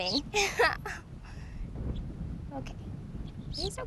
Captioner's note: laughs